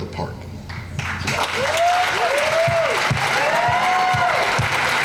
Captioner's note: crowd applause